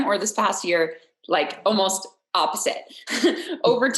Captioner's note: laughs